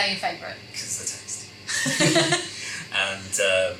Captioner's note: laughs